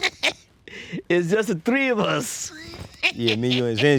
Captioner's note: laughing